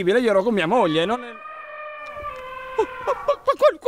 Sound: barrito of an elephant

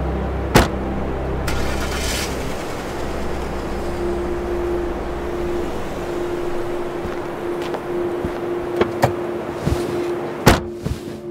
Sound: car Sounds

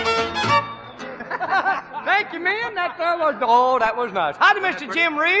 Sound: laughing

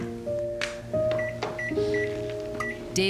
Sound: microwave beeping

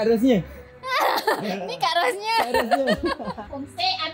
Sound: laugh

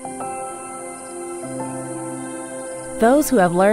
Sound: crickets chirping

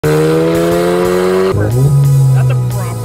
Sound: car revving

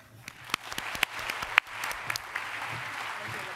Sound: applause

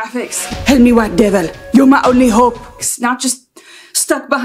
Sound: bad african accent

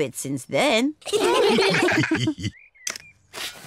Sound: all laugh

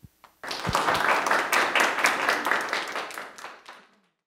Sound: audience applauds

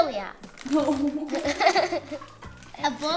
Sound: laughing

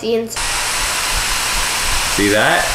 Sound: fan whirs

